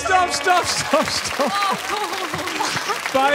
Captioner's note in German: Applaus